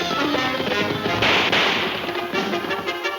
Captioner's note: guns firing; suspenseful music